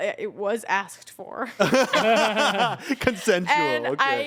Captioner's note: everyone laughs